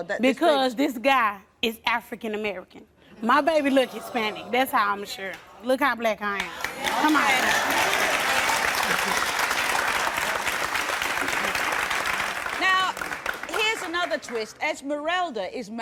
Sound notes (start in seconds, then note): 8.1 applause